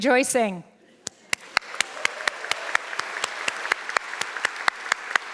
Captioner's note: audience clapping